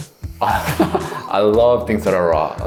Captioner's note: laughing